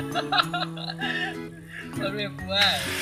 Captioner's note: he's Laugh